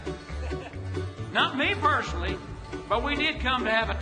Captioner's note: laughs